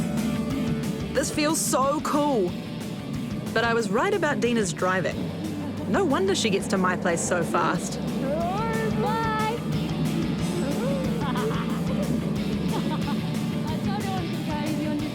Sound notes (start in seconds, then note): 8.2 exclaims; 10.6 cackles